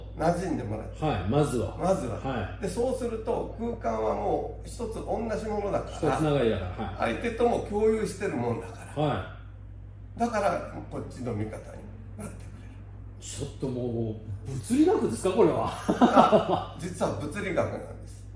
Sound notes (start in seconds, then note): 15.6 laughter